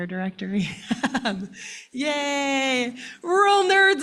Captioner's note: laughing